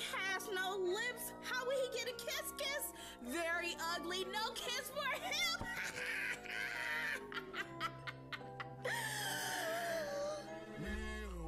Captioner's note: evil laugh; gasp